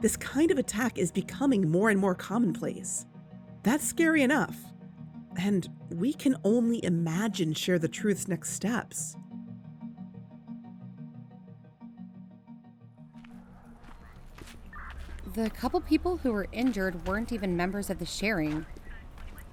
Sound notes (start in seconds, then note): 9.4 music fades out; 13.3 city ambience fades in police chatter, walking